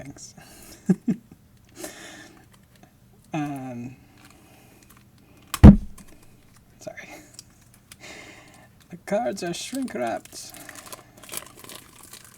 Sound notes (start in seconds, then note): 0.7 laughing; 5.6 hitting microphone